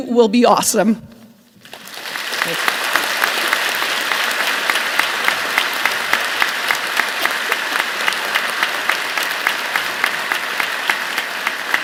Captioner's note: applause